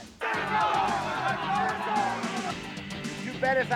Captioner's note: group chattering